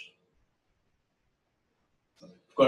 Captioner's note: pause